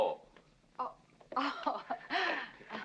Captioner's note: laughing softly